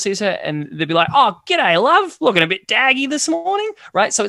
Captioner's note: somehow more australian sounding